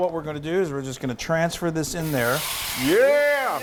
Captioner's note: sizzling